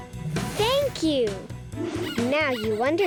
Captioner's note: squeaking